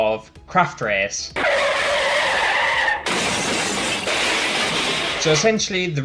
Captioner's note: car Engine